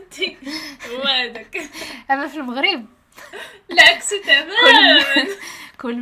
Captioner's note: laughing